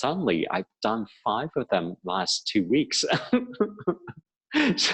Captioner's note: laughing